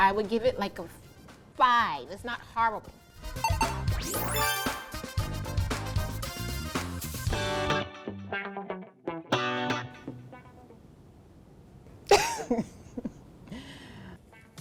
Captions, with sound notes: - I would give it like a five. It's not horrible. (digital ping) (uptempo disco music) (funky guitar riffs) (chuckles)